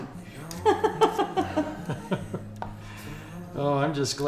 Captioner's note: Pamela and Mr. Blackburn laughing